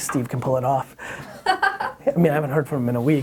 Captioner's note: laughs